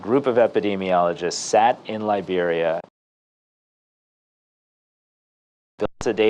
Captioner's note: audio cuts